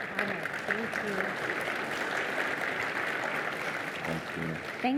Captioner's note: applause